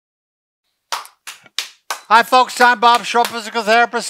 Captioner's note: clapping hands